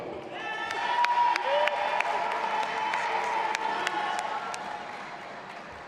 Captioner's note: audience applauding and cheering